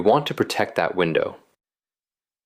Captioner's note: pause